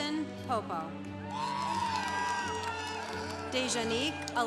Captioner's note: congregation applauding